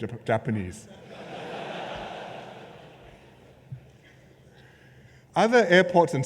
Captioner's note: laughter